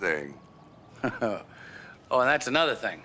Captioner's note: chuckles